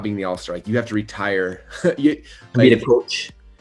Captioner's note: laughs